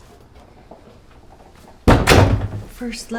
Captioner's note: door thuds shut